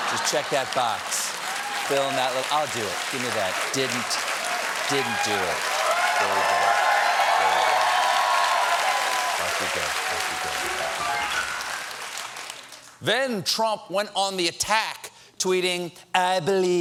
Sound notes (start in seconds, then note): 6.0 cheers and applause; 6.0 piano riff